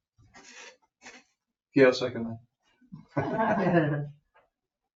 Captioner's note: members chuckling